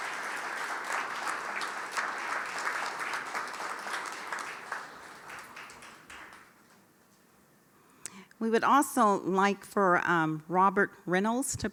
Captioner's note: applause